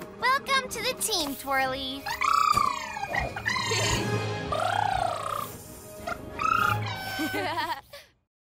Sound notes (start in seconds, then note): 2.1 trilling; 3.4 giggles; 4.4 trilling; 7.0 giggling